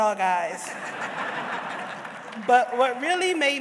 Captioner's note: audience laughs